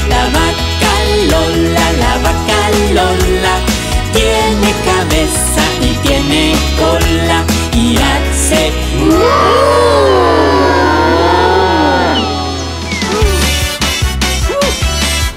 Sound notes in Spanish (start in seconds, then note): 10.3 Sonido de pajaritos; 13.4 Música alegre